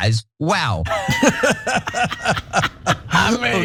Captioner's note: laugh